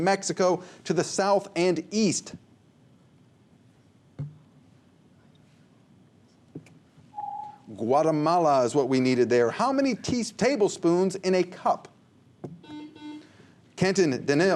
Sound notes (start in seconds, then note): 7.2 ringing; 12.6 buzzer